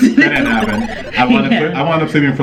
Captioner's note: video game dinging